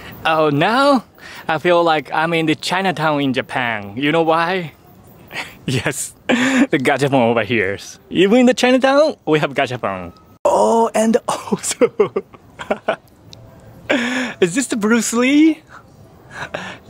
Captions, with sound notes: Oh, now, I feel like I'm in the Chinatown in Japan. You know why? Yes, the gachapon over here. Even in Chinatown, we have gachapon. Oh! And also... [CHUCKLES] Is this Bruce Lee?